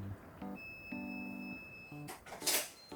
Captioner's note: sound of the front door opening🔔